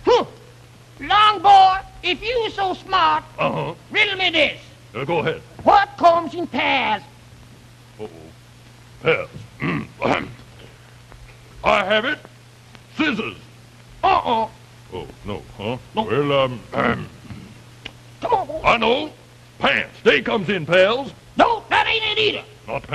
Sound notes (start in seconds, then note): 9.8 clears throat; 17.2 clears throat